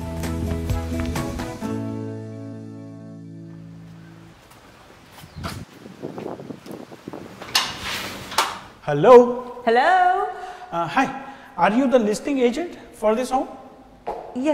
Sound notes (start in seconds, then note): 0.0 upbeat music; 3.8 wind blowing; 7.3 door opening